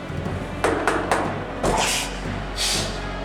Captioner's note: knock on the door; Goldberg grunts